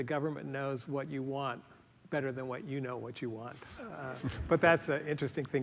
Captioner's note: laughter